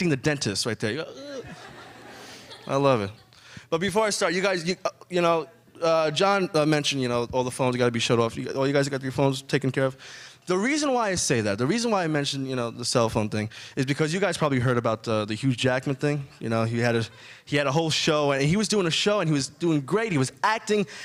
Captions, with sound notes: the dentist right there, you're uh. (adience chuckling) I love it. But before I start, you guys, you know, John mentioned, you know, all the phones they gotta be shut off. All you guys you got your phones taken care of? The reason why I say that, the reason why I mention, you know, the cellphone thing is because you guys probably heard about the Hugh Jackman thing. You know, he had a whole show and he was doing a show and he was doing great, he was acting